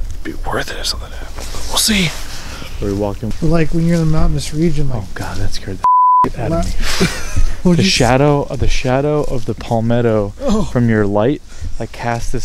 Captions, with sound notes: It'd be worth it if something happens. We'll see. - We're walking. - Like when you're in the mountainous region- - Oh god, that scared the (beep) out of me. The shadow of the palmetto from your light like cast.